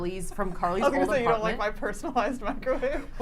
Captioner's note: giggles